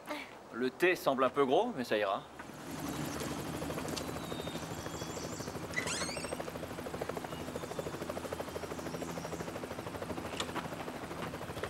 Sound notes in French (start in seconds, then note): 2.4 vrombissement d'hélicoptère